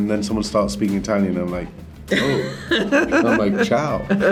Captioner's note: Rian laughs